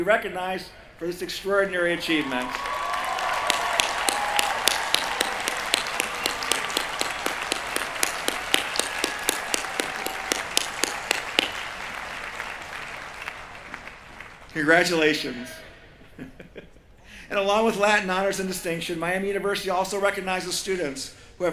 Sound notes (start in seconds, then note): 3.7 cheering